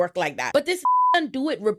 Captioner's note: beep